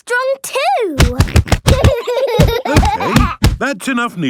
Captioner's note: banging